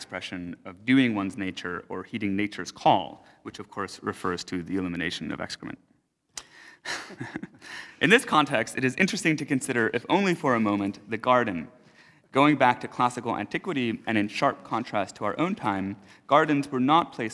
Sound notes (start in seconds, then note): 6.8 chuckles